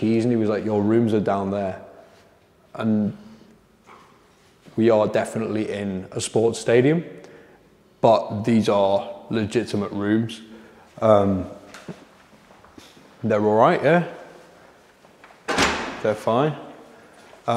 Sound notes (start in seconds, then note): 15.4 door slams